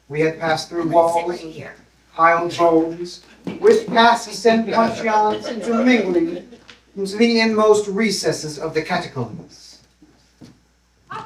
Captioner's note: laughter